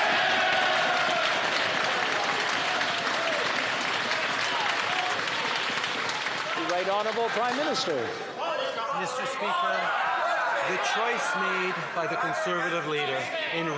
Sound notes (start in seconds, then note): 9.0 some Applause; 13.5 yelling